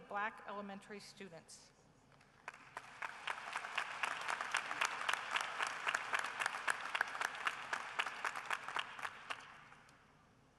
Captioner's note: applause